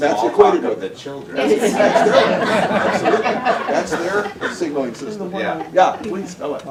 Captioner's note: laughter